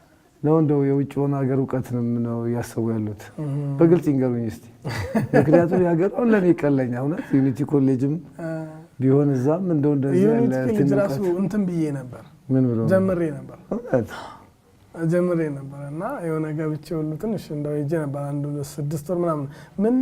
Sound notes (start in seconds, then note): 10.3 shared laughter